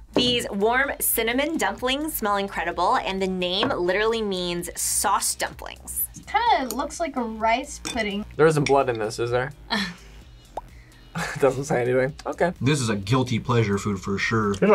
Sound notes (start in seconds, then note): 11.2 laughs